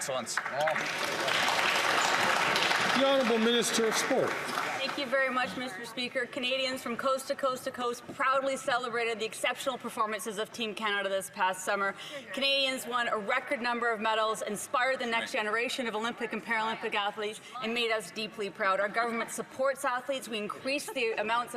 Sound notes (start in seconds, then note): 5.6 some Applause